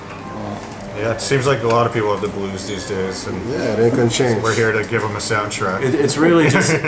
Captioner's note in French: Rires